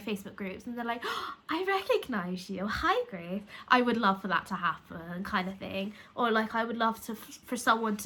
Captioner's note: gasp